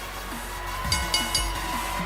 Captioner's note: bell